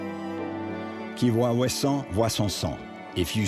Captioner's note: speaking in foreign language